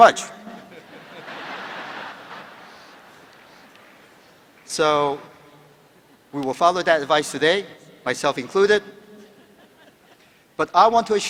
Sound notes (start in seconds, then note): 0.4 laughter